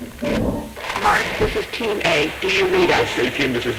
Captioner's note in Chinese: 無線電滋滋聲